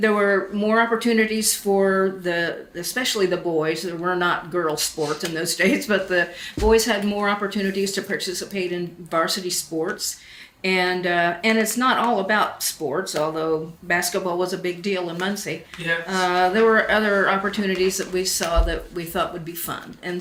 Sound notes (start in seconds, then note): 5.7 laughs